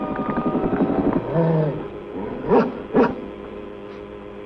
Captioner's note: growling